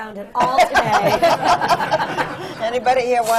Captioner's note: laughter